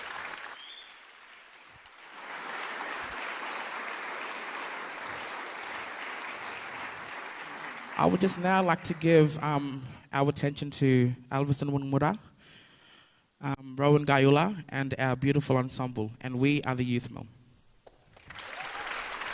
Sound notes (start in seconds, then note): 3.1 cheering and applause